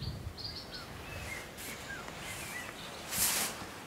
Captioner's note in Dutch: kwetterende vogels